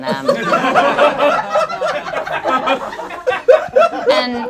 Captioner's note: group laughs